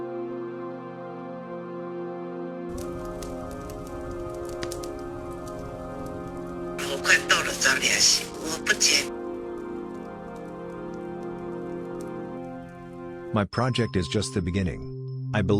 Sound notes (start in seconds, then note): 3.0 fire crackling; 7.1 woman on radio speaking in foreign language